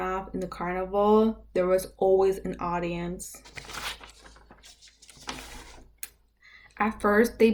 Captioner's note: sounds of paper being flipped over